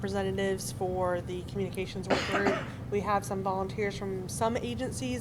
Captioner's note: coughing